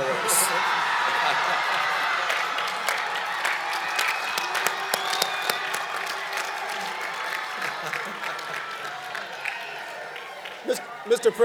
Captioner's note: cheering and Applause